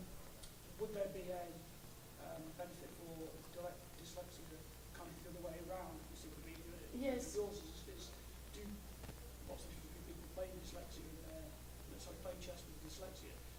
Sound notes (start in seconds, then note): 7.8 voiceover